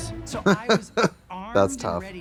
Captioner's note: Trixie titters